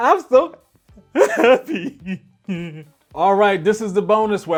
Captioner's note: cries